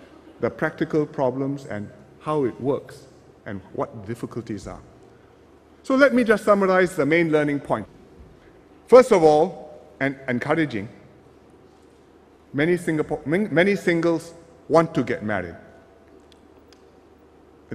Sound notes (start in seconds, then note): none